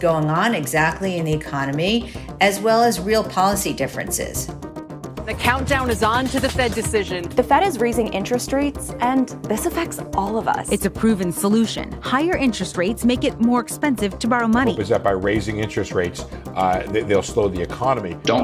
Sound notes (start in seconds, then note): 5.2 soundbite of archived recording